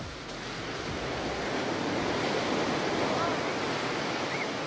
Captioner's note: ocean roars and waves crash